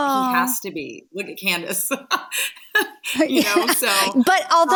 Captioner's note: Jill laughs